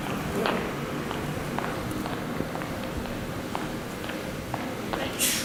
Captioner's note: footsteps walking quickly